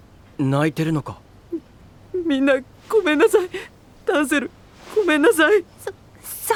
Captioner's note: crying and sniffing; timidly